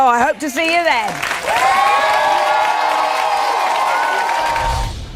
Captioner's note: audiene applauds